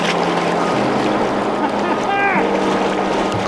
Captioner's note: water splashing; laughing